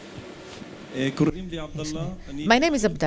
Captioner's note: speaking arabic